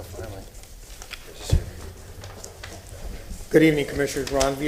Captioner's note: sounding gavel